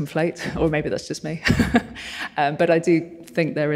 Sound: chuckles

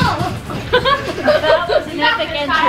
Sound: laughs

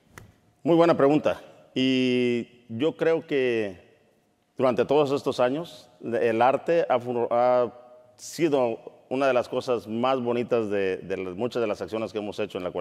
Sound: speaking in Spanish

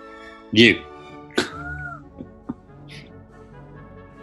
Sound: chuckling

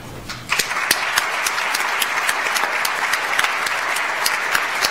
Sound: audience applauds

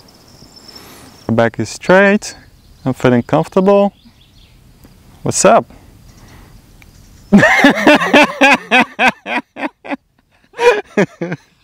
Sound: laughing

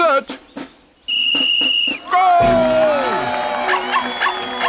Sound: whistling; cheering; barking

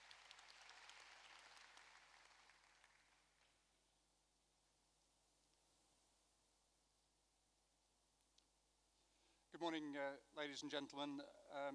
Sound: applause

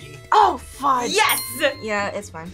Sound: bell dings; buzzer squeaks

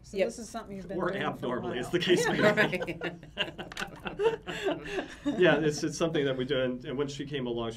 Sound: laughs

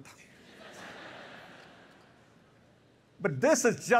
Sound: laughter

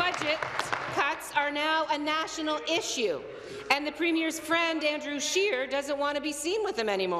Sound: applause

